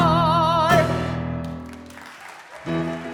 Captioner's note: audience applause